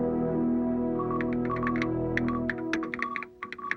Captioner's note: keyboard clicking